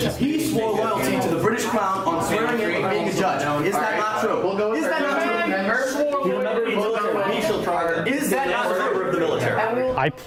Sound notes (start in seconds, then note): 4.2 students protesting